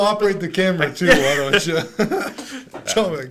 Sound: both laughs

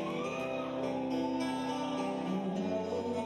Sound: audience cheering

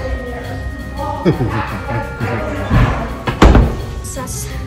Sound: chuckling

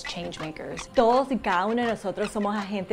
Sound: in Spanish

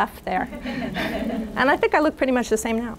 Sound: audience laughing

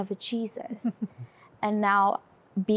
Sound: giggling

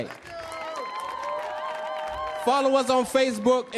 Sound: audience clapping; audience cheering

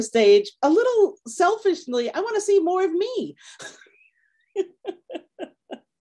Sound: laughing

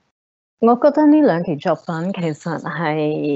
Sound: Cantonese

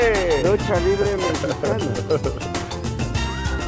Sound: laughing

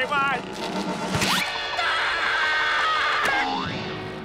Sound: screaming

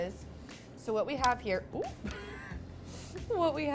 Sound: laughing

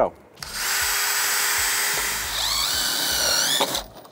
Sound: drill buzzing

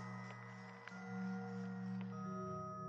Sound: none

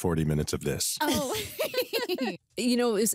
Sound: both laughing

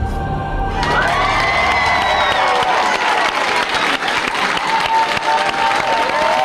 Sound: participants cheers and applauds

